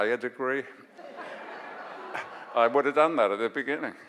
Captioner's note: audience laughs